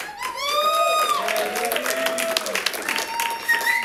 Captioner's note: audience cheering